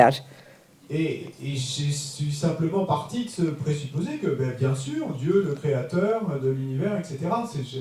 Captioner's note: French